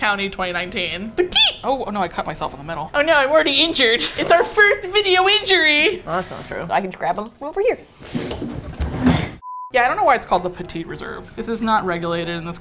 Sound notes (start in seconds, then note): 8.0 chair scooches; 8.9 bang